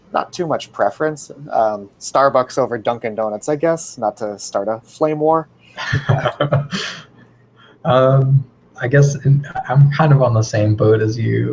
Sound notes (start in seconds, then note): 5.8 laugh